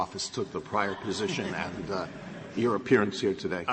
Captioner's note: laughter